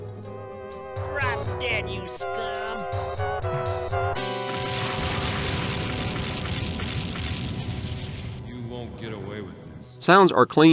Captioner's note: game sounds